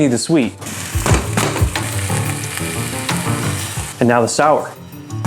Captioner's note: sizzling sounds